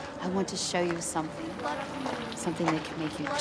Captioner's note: chanting